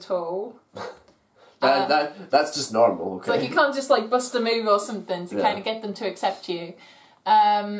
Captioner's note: laughs